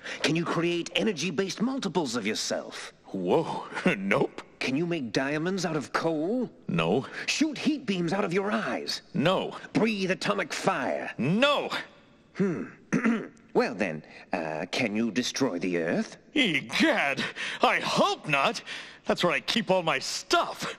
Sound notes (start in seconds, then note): 12.4 clears throat